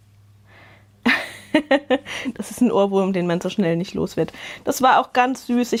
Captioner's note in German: Gelächter